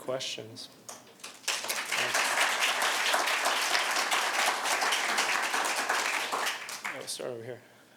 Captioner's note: applause